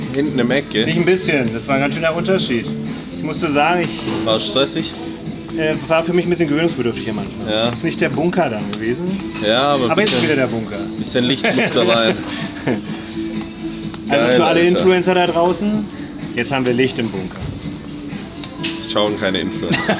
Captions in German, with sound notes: hinten im Ecke. G nicht ein bisschen. Das war ganz schöner Unterschied. Ich musste sagen, ich war stressig. Äh war für mich ein bisschen gewöhnungsbedürftig am Anfang. Ist nicht der Bunker dann gewesen. Ja, aber aber wieder der Bunker. Bisschen Licht dabei. [gelächter] Also für alle Influencer da draußen. Jetzt haben wir Licht im Bunker. Schauen keine Influencer.